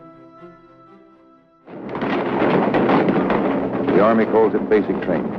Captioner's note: gunfire